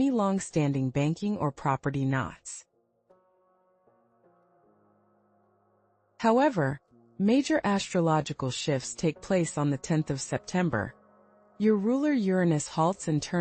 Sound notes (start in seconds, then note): 4.3 pause